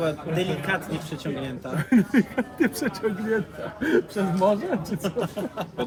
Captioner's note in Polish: śmiech